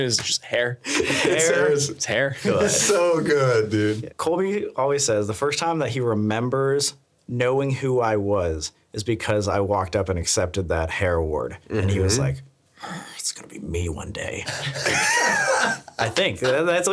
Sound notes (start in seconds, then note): 0.8 laughing; 12.8 growling; 14.4 laughing